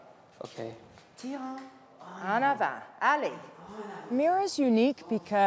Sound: speaking French

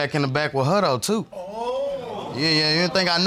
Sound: audience exclaims

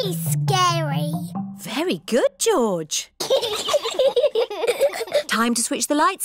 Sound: both giggle

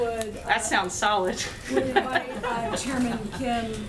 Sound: laughs

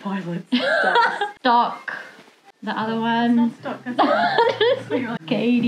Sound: laughs

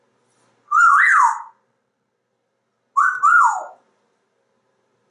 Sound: whistling

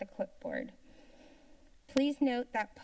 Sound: silence

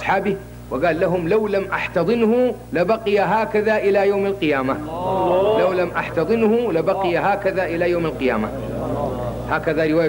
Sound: sobbing

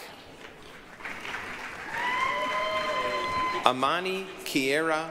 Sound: applause, cheering

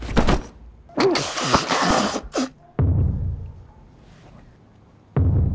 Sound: purse falling; Catherine blowing nose

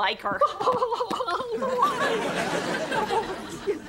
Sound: <i>sobbing

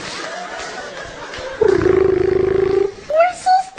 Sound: phone noises

